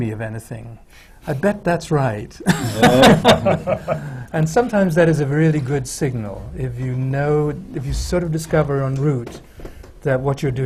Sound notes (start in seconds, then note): 2.4 laughter